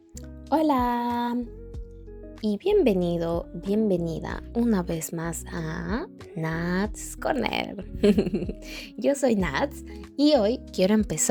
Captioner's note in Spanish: risas